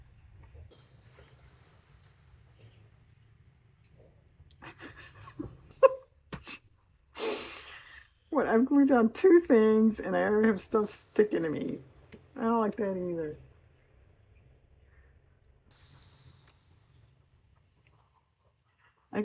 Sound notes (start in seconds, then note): 7.3 laughs